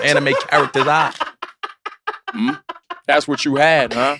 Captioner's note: laugh